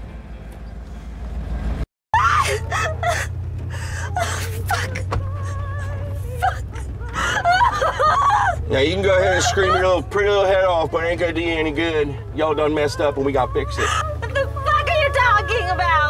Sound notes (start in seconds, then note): 2.1 Stephanie screaming; 6.8 Stephanie cries, screams